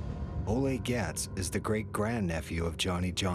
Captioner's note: voiceover